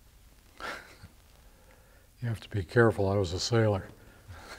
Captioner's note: laughs; laughs